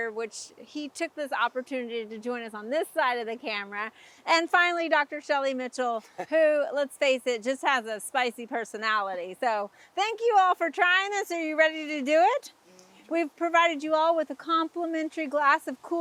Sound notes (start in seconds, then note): 6.0 chuckles